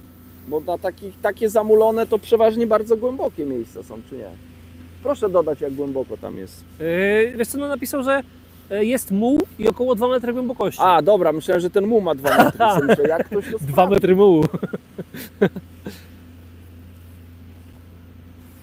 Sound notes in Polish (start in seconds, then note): 14.4 śmiech